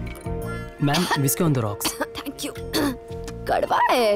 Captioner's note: Clears throat